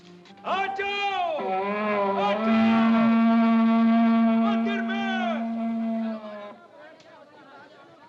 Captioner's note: yelling & horn blowing